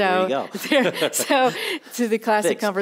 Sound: laughing

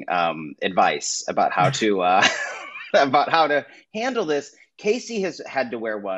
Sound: laughs

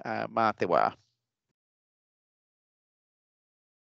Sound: speaking in te reo Māori

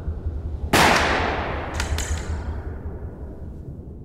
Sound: gunshot

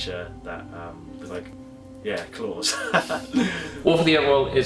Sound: laughs

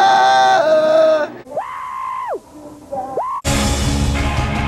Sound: flea screaming

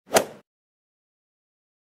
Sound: swoosh

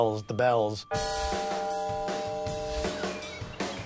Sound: bell tower ringing

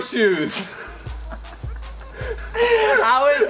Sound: laughs

